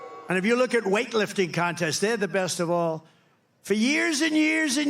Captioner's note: booing